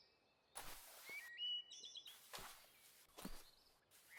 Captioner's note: tent rustling